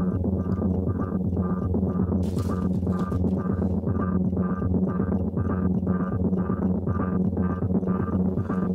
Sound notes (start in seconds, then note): 2.3 bag rustles